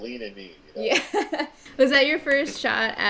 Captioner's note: laughing